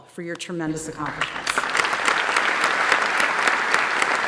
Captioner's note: applause